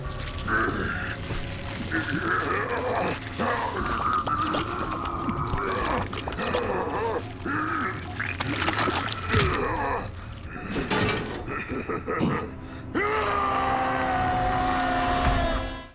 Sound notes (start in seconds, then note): 0.2 groaning; 10.8 laughing; 12.9 screaming